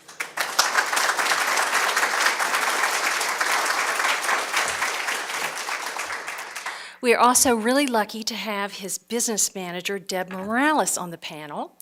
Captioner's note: applause